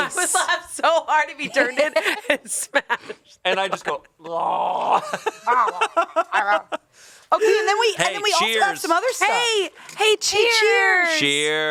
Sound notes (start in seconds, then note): 4.2 groans; 5.3 laughs